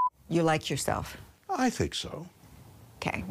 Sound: beep

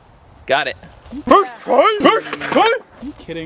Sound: man barking

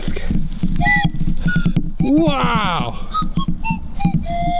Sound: blowing whistles

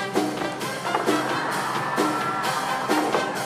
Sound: applause

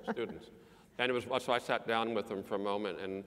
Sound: laugh

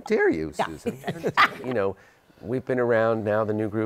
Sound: laughs

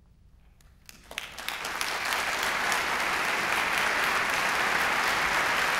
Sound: applause

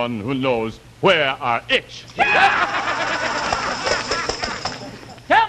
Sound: laughing

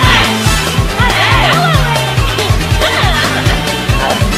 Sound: laughter

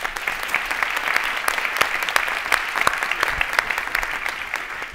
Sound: audience clapping

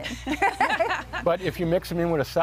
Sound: laughing

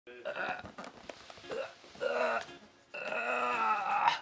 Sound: groaning

